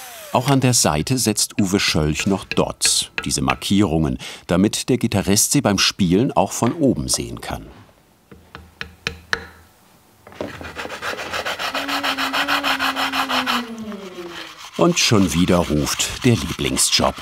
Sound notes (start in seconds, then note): 10.7 grinding noises